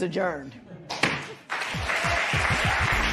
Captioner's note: gavel bangs; cheers and applause